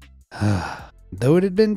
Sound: sighs

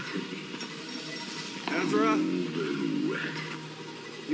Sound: distorted

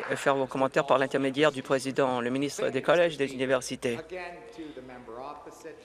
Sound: some Applause

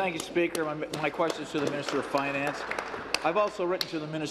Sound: applause

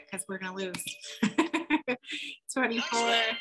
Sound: laughs

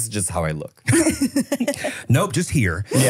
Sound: laughing

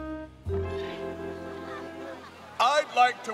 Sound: cheers

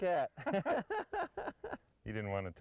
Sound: laughter

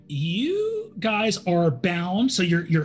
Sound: none

